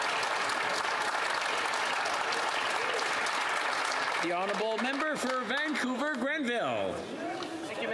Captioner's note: some Applause